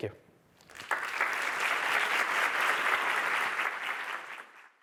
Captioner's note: applause